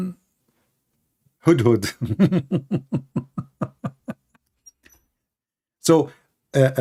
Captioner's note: Ketawa